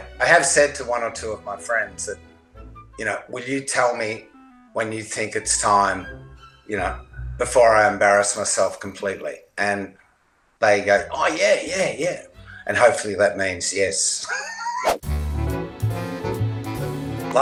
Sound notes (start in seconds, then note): 14.2 chuckles; 15.0 bright upbeat music